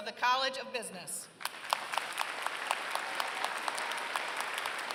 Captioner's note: applause